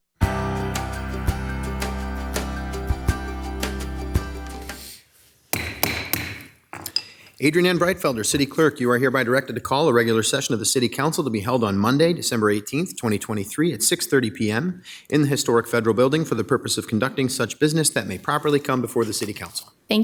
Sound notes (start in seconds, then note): 0.2 soft upbeat music; 5.5 gavel taps